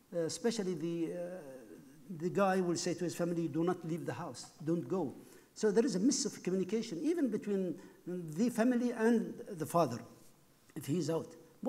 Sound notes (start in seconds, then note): none